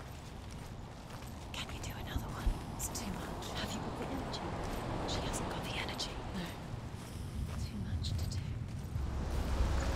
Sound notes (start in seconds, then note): 1.7 whispering; 6.8 whisper